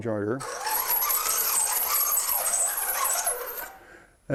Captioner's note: metal-on-metal scraping